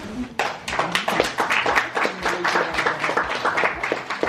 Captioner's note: applause